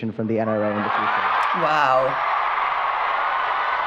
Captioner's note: audience roaring